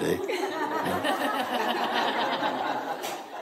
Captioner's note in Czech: smích